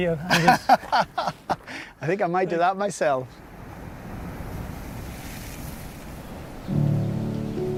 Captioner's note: laughing; serene music